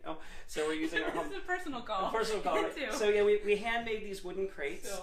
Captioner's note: laughter; laughter